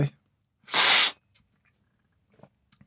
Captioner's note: slurp